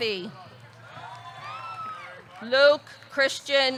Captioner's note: audience cheering